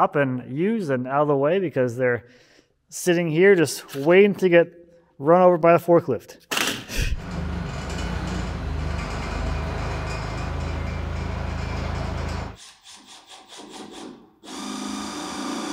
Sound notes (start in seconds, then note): 7.1 forklift engine whirring; 12.7 drill buzzing